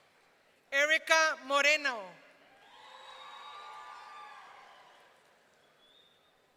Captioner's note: audience cheering